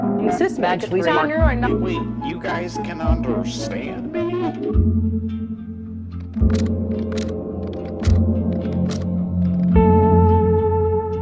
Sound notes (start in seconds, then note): 6.2 distorted voices and music